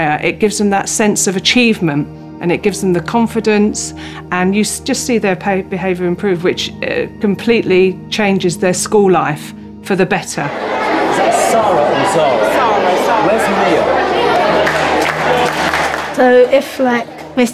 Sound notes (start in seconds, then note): 10.4 children chattering; 14.8 children clapping